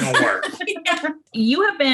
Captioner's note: laughter